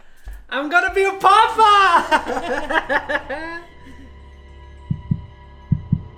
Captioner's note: laughs